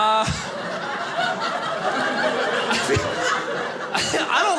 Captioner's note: audience laughing